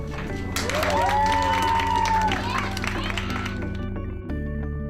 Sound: applause

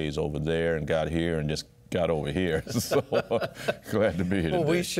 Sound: both Laugh

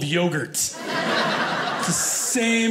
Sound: audience laughing

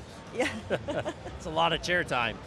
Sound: chuckling

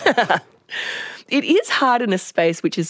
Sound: laughs

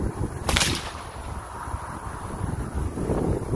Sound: whip cracks

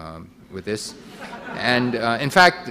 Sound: audience laughing

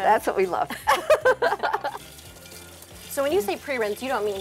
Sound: water running; pair laughing

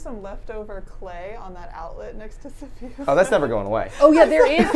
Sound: laughs

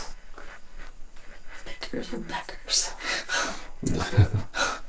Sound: whispers

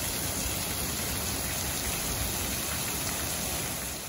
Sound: water dripping loudly

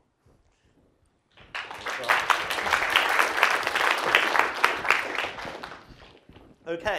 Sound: applause

